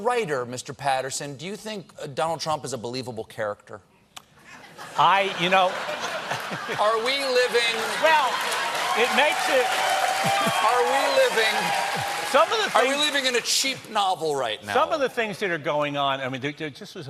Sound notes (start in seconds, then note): 4.6 laughter; 9.6 cheers and applause